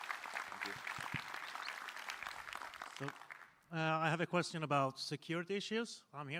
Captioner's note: applause